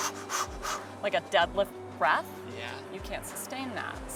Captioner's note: exhaling rapidly